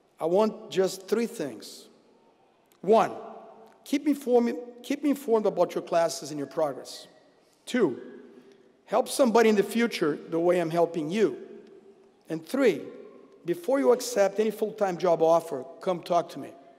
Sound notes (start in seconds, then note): none